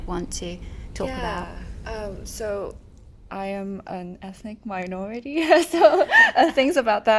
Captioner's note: laughs